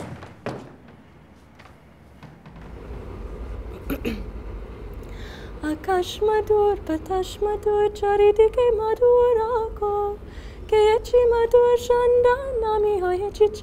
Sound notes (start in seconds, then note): 3.7 clears throat; 5.7 melodic chant